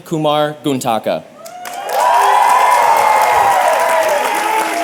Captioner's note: applause and cheering